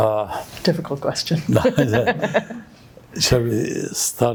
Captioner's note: laughing